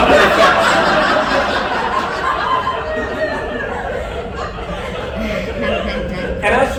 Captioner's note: laughter